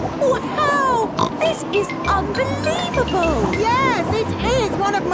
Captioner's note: snorts